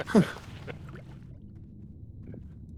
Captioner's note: laughs